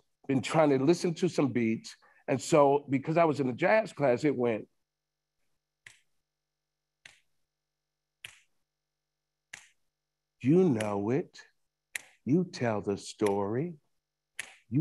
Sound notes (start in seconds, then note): 5.3 fingers snapping